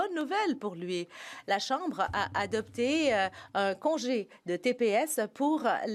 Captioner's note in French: voix de l'interprète